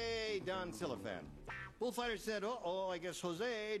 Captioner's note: spanish accent